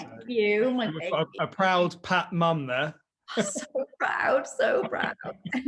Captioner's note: laughs; giggles